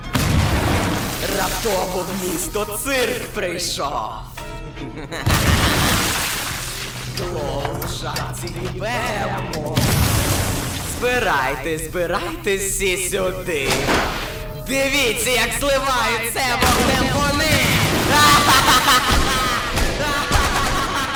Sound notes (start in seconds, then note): 0.0 explosion; 4.7 cackles; 5.2 explosion; 9.7 explosion; 13.4 gunshot; 16.6 explosions; 18.1 laughter; 18.2 gunshots